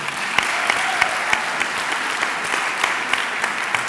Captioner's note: clapping